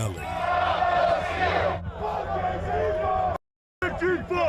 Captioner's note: crowd chanting